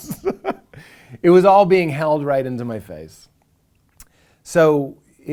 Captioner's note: laughing